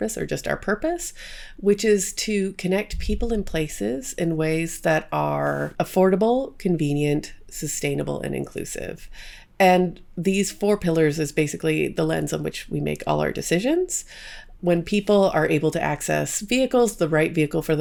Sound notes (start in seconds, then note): none